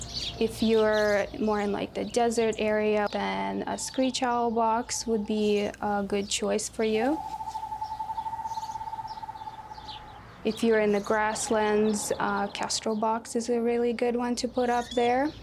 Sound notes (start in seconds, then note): 6.8 owls hooting